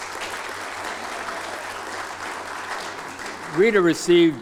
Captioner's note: applause